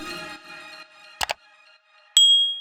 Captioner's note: upbeat music plays out; button clicks